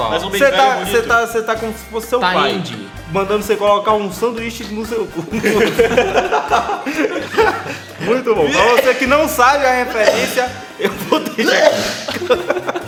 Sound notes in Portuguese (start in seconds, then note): 5.3 Risos; 8.5 Espirro; 10.8 Espirro e Risadas; 11.4 Espirro